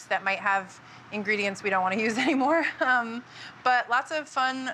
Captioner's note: chuckles